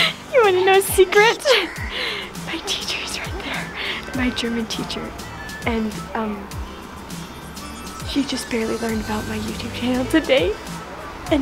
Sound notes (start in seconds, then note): 1.1 whispers